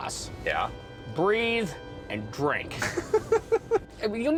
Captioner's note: laughs